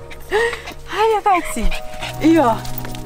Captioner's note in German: Lachen